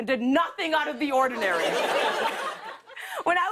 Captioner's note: laughter